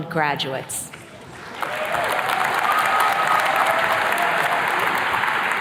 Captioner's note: attendees cheers and claps